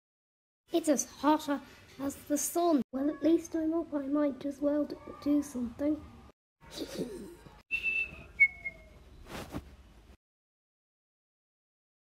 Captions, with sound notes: It’s as hot as the sun. Well, at least I’m up I might as well just do something. (Snickers to himself)